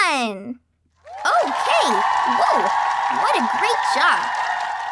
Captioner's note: audience cheering